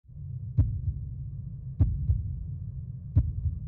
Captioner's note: heart beat